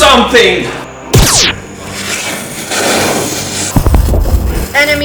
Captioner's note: laser and explosion